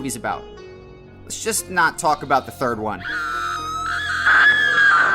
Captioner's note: scream